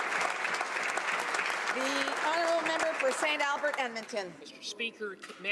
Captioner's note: applause